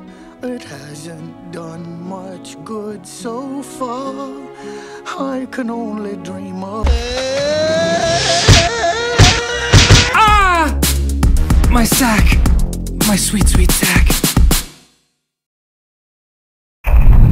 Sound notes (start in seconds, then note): 6.8 Pooh screaming, Body slamming; 9.9 painful Scream